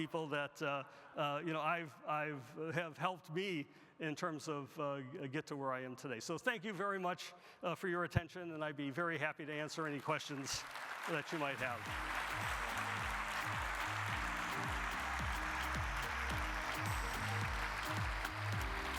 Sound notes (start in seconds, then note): 11.7 upbeat music; 12.3 audience applauding